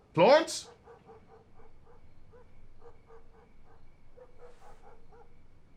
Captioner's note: dog barking in distance